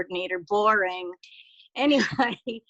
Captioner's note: laughing